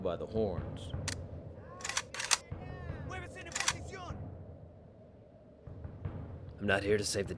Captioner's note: guns clacking